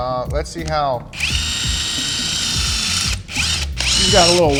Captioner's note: drill whirring